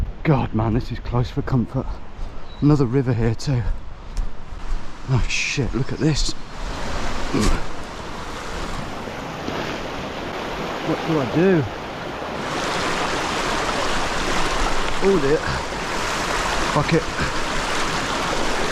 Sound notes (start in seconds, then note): 7.2 water rushing; 7.3 grunts; 13.7 water trickling